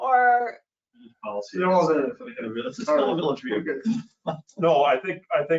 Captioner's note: people chattering